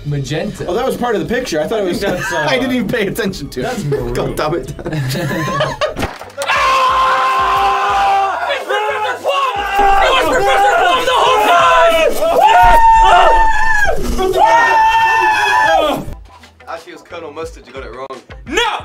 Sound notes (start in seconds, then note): 11.6 cheers; 14.1 cheers Again